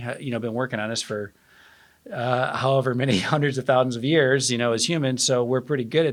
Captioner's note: laugh